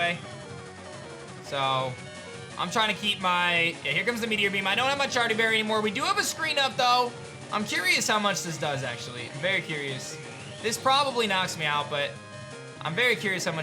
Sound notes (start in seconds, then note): none